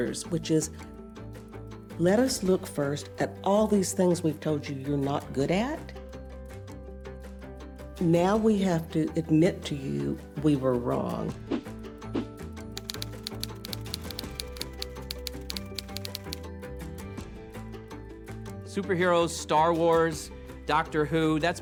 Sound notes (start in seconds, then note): 11.8 light music; 12.8 typewriter clacking